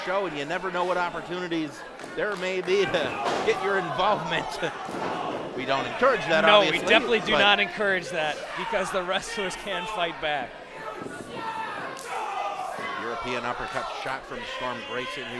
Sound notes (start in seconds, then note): 11.9 slap